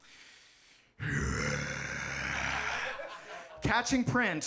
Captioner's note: groans deeply